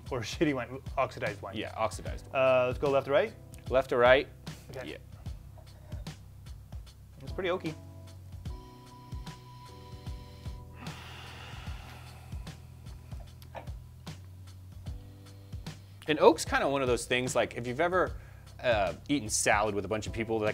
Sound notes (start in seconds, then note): 9.1 sniffing; 10.6 sighing